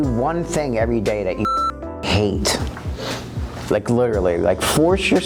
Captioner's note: beep